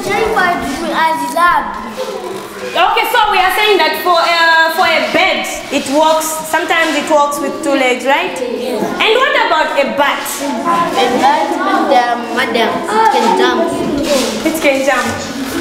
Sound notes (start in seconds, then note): 12.5 lively class discussion